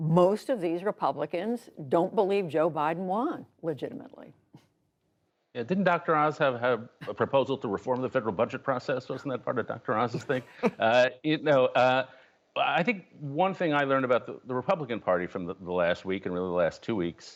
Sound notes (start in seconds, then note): 10.0 laughter